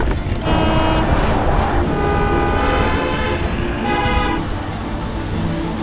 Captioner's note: car Horns